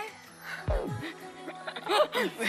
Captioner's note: laughing